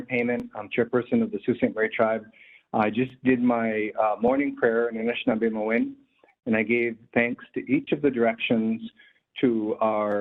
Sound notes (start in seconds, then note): 4.8 speaking in native language